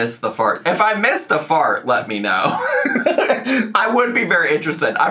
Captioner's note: laughs